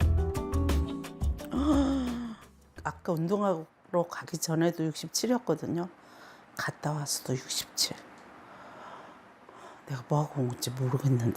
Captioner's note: voiceover